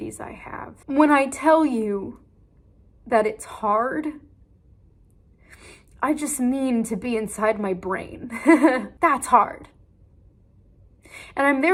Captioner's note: laughs